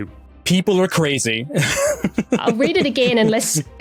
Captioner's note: laughs